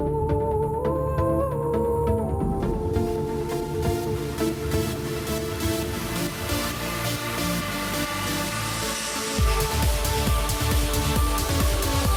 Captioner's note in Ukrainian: оплески